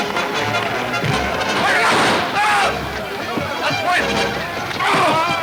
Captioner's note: men yelling simultaneously